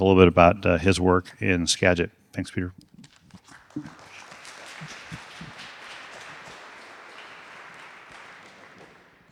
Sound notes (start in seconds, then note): 3.4 audience applauding